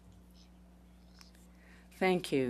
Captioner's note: speaking in French